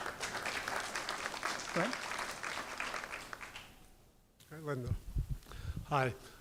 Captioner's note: applause